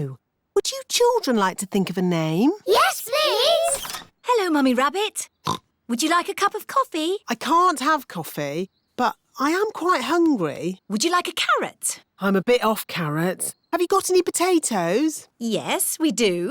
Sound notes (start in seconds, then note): 5.4 oinks